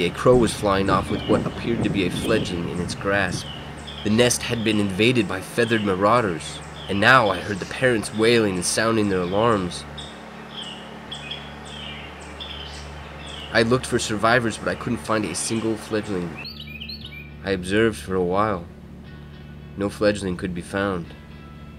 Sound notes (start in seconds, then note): 10.6 wrens calling alarms